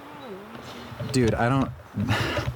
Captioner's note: sighs